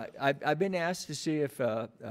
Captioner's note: none